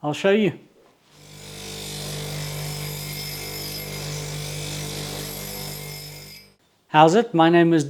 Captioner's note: grinding Noise